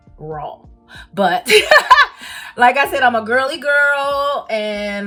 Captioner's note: chuckles